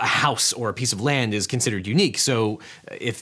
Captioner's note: none